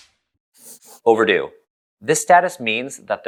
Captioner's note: pencil scribble